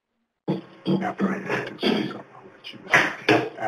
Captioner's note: voice fades